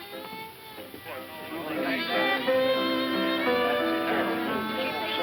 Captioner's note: bar patrons chattering